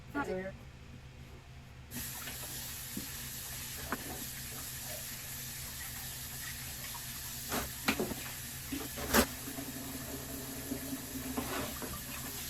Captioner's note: water running